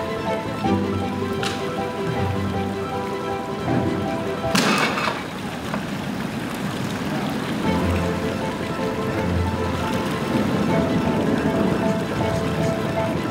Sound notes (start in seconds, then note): 2.7 line snapping; 7.6 thrilling music